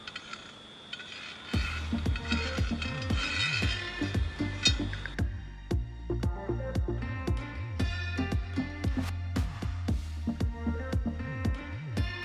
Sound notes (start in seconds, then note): 2.7 sound of metal sliding